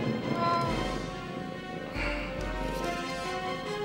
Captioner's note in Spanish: gato maullando